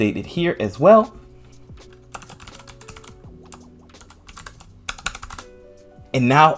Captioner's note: typing